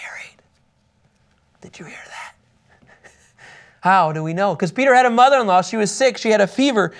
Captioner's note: whispers